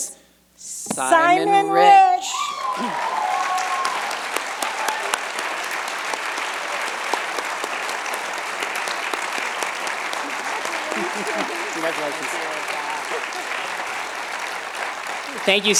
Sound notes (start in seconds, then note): 5.3 cheers and applause